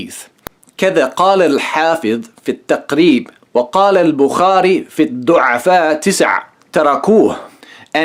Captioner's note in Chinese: 念阿拉伯语